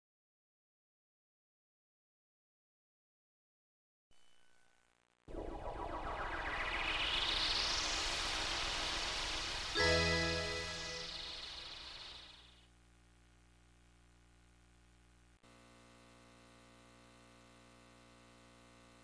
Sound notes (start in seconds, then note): 0.2 silence; 5.3 digital whooshes